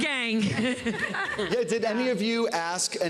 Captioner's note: laughter